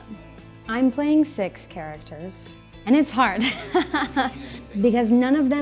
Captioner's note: laughs